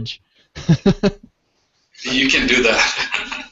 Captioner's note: laughs